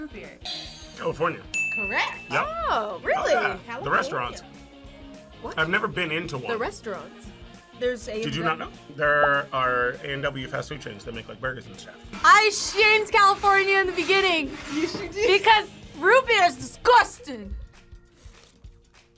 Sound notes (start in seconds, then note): 0.3 buzzer rings; 1.4 bell rings